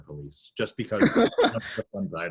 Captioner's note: laughs